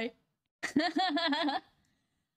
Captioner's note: laughing